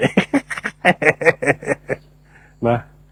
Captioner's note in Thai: เสียงหัวเราะ